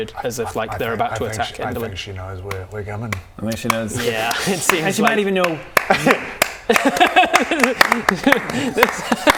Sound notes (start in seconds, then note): 5.7 clap clap; 5.8 overly polite applause